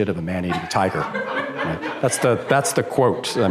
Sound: laughter

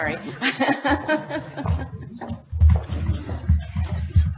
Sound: laughing

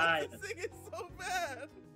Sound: laugh

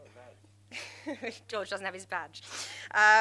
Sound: laughs

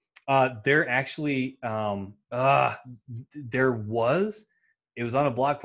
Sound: grunts

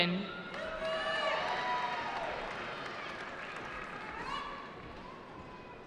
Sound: cheering

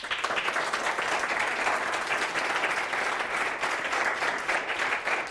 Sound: applauding

